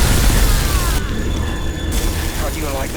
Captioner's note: eye firing; agents shouting